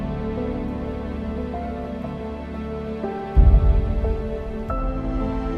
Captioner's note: suspenseful music; water bubbling; suspenseful music